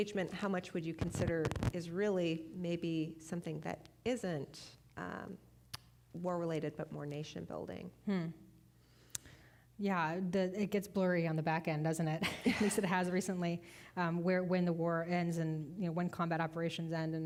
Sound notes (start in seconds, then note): 12.2 both chuckling